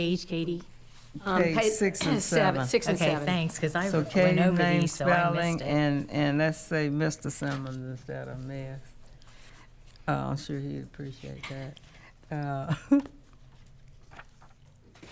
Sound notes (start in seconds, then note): 1.9 coughs; 12.4 chuckles